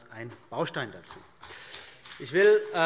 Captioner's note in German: Beifall CDU und BÜNDNIS 90/DIE GRÜNEN